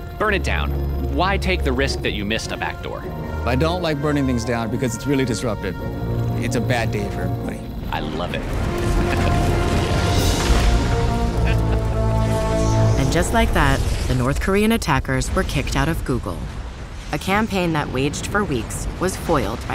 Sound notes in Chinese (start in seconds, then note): 8.8 笑聲; 10.0 爆炸聲; 11.3 笑聲; 11.4 爆炸聲